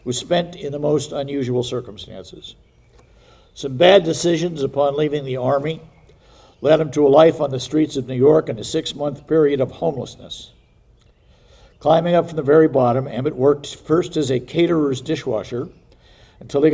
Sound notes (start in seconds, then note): none